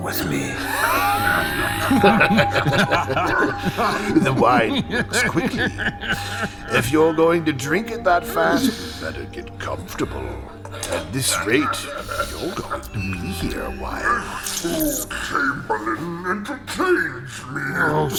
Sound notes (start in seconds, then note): 2.7 laughing; 5.2 sounds of coughing and laughing from across room; 14.5 laughing and coughing